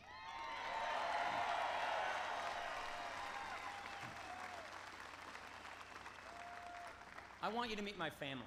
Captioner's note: applause